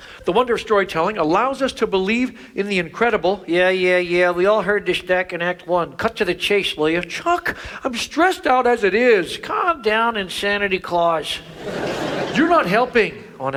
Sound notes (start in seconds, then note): 11.4 audience laughs